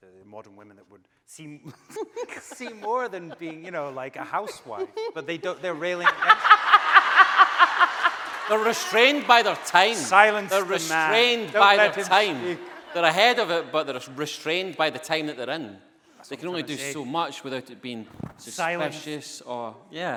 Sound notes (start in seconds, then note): 6.2 laughing